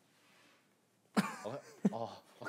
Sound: laughing

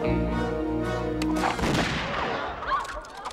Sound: gunshot

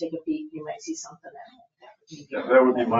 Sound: speaks faintly

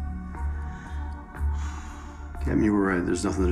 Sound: sighs

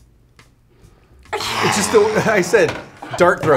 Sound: laughs

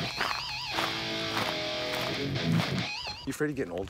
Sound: rock guitar music; footsteps crunching

